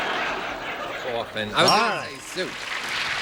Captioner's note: laughter